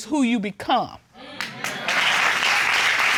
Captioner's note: audience applauding